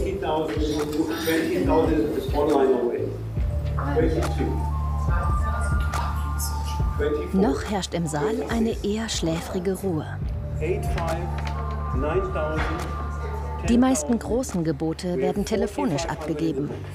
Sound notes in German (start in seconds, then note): 3.7 englisch; 5.6 Flüstern